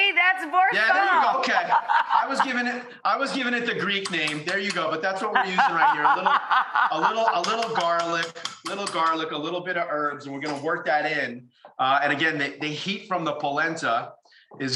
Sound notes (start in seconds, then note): 2.5 laughs; 5.2 laughs